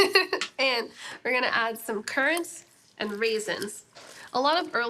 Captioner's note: laughs